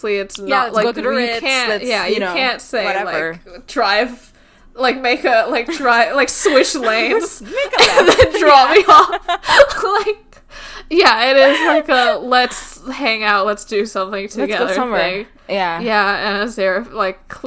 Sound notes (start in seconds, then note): 6.2 laughs; 10.0 laughing